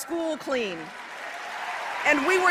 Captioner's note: applause